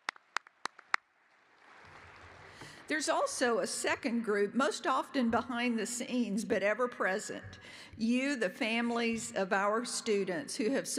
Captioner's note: applause